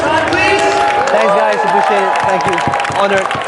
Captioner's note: clapping